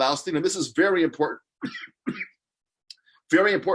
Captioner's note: coughs